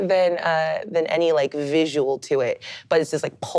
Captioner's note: none